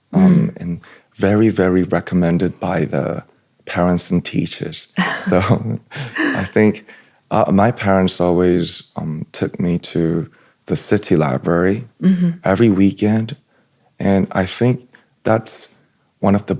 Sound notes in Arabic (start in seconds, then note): 0.2 يمسح الحلق; 5.0 ضحك